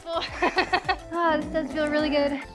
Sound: laughs

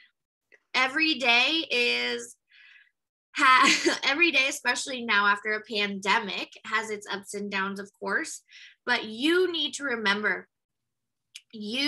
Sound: laughs

